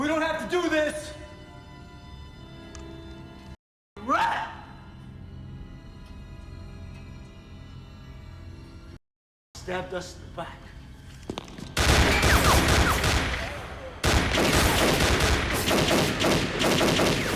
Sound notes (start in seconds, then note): 11.7 gunfire clattering